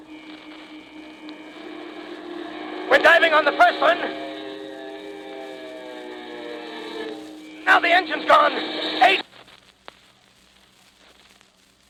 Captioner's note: plane goes down